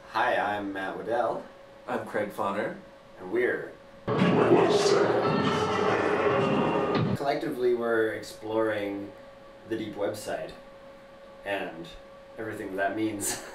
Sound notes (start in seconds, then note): 4.4 robotic Voice